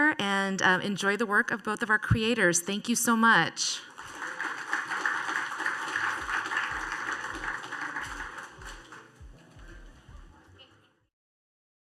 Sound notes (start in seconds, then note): 3.8 applause